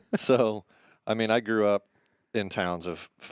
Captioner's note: laughing